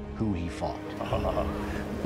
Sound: laughs

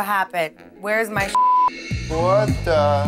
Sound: beep

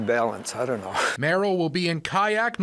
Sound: laughs

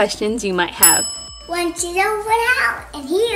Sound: dinging

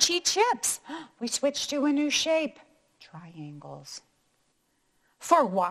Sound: gasps

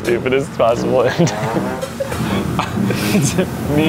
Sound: laughs

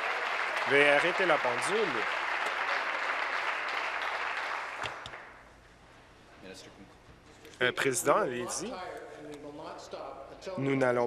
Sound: applause; continued applause

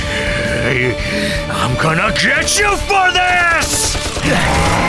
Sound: tank growls

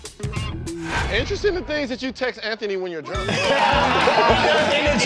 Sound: laughter

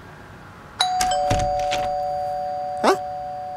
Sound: calling Bell

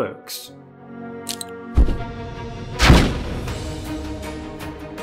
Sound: sound of pin being pulled and explosion; orchestral music

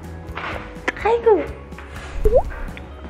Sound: kiss

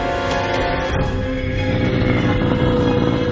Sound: deep growl

